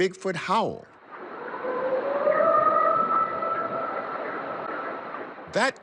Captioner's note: recording howling